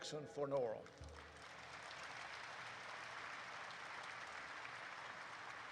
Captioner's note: audience applauds